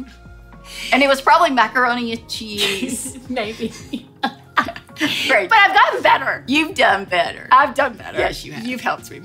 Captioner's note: laughter